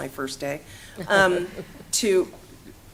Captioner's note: laughter